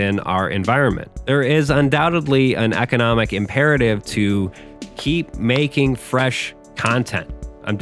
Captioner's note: clap